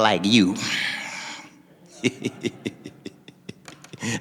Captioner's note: laughing